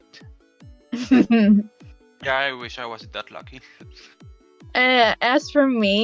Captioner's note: chuckles